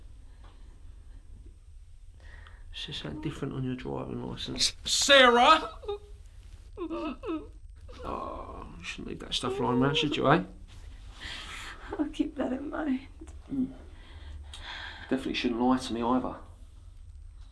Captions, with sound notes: Says something different on your driving license. Sarah! (muffled crying) Oh, you shouldn't leave that stuff lyin 'round, should you, eh? - I'll keep that in mind. - Definitely shouldn't lie to me either.